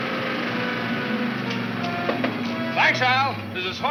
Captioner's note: tapping on window